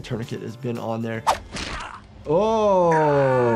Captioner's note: Snake grunts; bone crunches